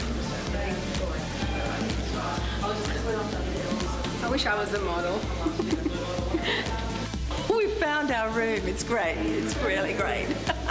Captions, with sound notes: I wish I was a model (laughs). - We found our room, it's great, it's really great.